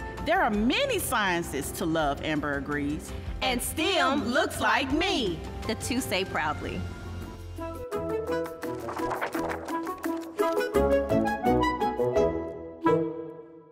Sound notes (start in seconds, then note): 8.0 light music; 8.5 pages flipping